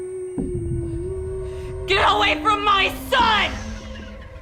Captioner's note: the OLD WOMAN is humming